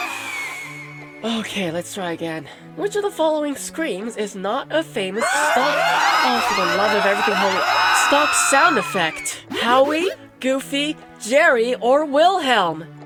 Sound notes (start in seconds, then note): 0.0 inhales exasperatedly; 5.2 scream sound effect spam